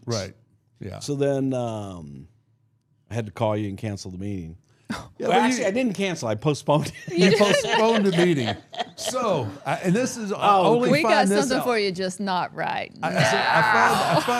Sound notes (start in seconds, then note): 6.8 laughing